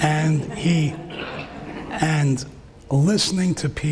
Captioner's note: laughing